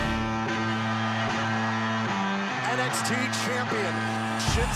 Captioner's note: crowd cheering